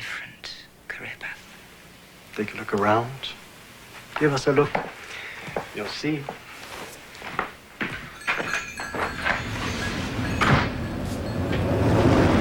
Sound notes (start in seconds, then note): 7.8 jingling of doorbell; 10.7 closing of door